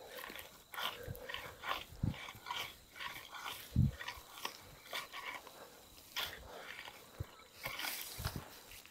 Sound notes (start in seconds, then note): 0.1 pitchfork scraping